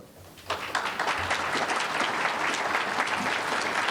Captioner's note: applause